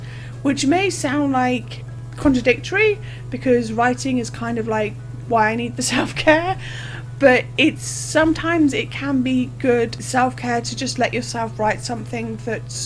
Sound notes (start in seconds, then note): 5.9 laughs